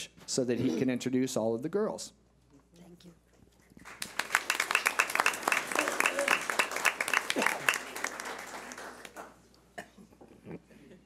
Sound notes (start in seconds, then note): 3.8 clapping